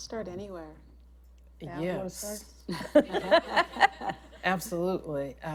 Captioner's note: laughter